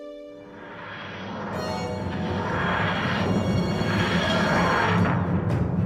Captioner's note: whooshing